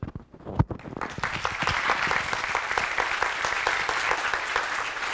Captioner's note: applause